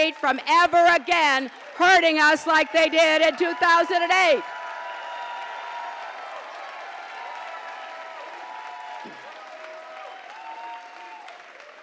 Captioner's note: applause